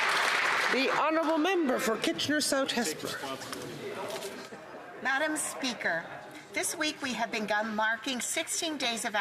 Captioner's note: some Applause